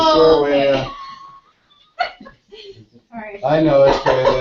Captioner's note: laugh